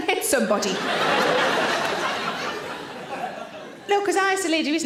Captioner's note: audience laughter